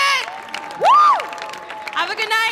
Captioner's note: audience applauding